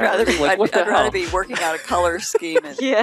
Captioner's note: laughing